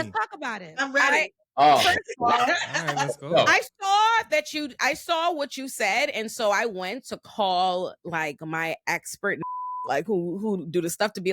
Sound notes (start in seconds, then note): 1.8 laughter